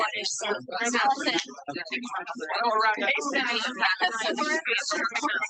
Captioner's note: background chattering continues